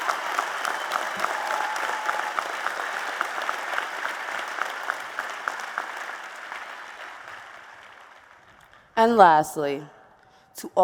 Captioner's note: applause and Cheers